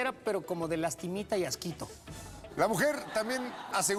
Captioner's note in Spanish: risas